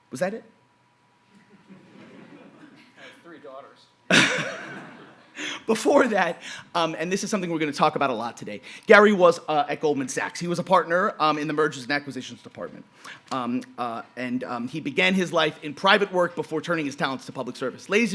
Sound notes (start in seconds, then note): 1.4 audience laughing; 4.1 laughing